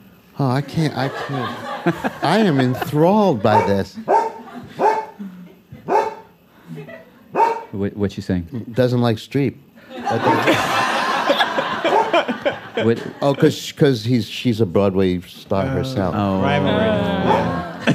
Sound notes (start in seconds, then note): 7.3 Macy barks; 9.8 laughter